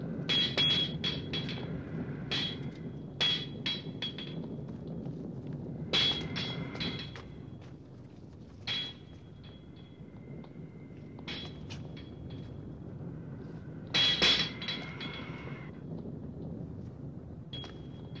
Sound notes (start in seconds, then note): 0.1 banging; 5.8 banging; 8.6 banging; 13.7 banging